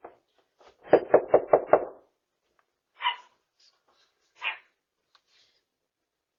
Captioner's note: Ella barks; knocks on door